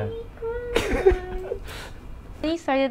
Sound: chuckles

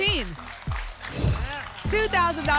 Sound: whoosh

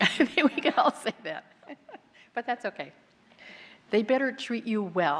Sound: laughs

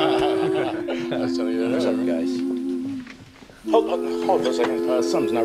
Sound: men Laughing

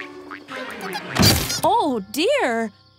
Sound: slam

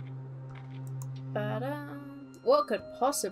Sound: in a sing-song voice

